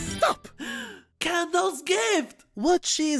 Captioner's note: gasps